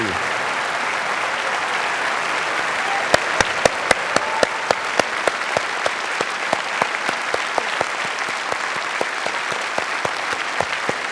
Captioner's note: applause